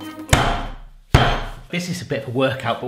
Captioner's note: thumping